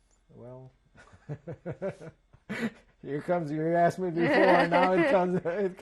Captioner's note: laughs